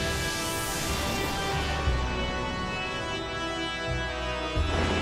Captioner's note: dramatic music; graphic whooshing; thunder rumbling